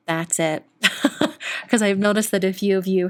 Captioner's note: laughs